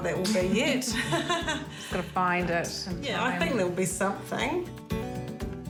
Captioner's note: laughs